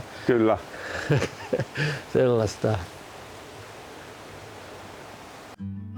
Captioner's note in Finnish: naurua